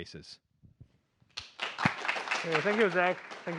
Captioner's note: applause